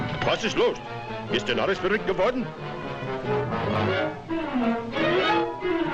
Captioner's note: boss speaking foreign language; light dramatic music